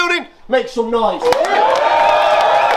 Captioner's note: crowd noise